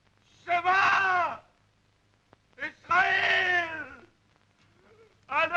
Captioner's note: speaking foreign language